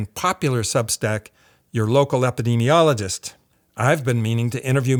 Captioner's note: none